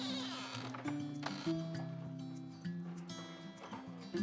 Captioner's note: door creaking